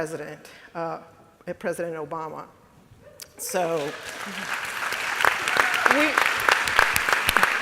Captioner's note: more applause and cheers from the audience and panel